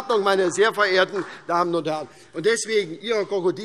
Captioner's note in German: Beifall SPD